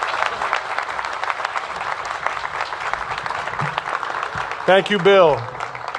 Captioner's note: applause